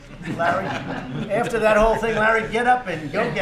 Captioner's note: laughter